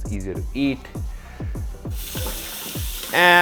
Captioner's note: tap water flows